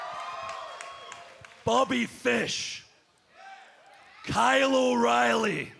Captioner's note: cheers and applause